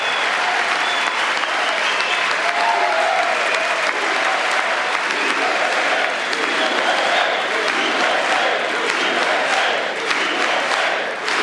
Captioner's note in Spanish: gritos; aplausos